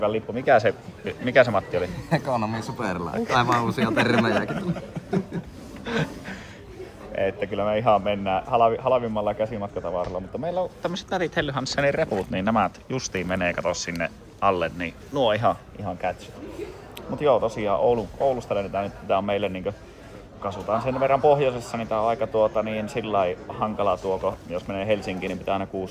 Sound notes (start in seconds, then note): 3.2 laughter